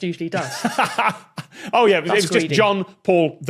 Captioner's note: laughs